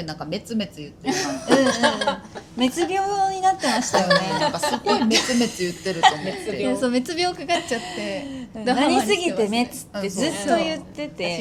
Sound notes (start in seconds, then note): 7.1 laughs